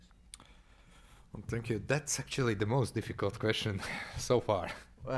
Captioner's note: chuckles